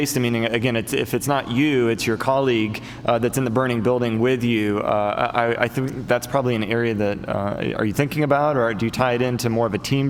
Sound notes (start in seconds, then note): none